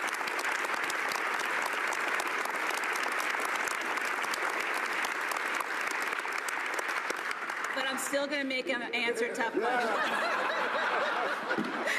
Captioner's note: applause